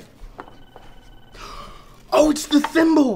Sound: gasps

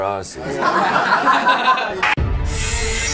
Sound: laughter

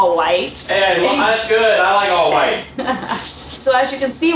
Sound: laughing

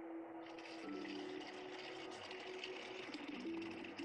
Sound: distorted mechanical sounds

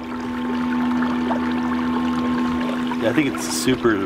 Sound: sonar humming

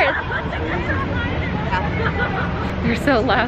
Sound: laughter and screaming in distance

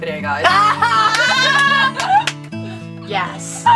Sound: laughs

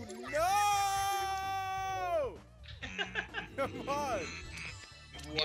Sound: laugh

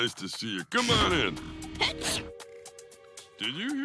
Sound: sneezing

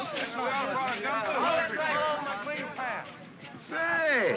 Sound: men chatter and grumble

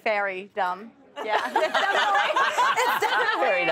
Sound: laughter

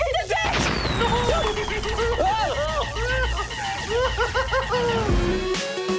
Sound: explosions; giggles

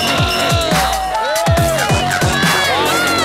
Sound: techno music; bells ringing; contestants yelling

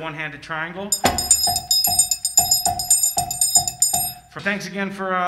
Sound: triangle ringing

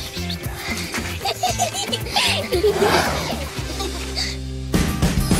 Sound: fake whispering; both laughing; upbeat music

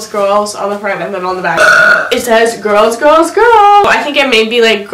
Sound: burps

